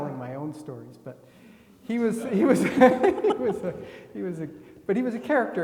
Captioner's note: laughs